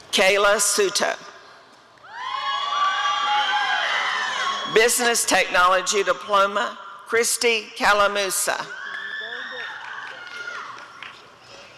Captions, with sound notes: Kayla Souto [audience cheering] Business Technology Diploma— Kristie Calamusa [applause and cheering]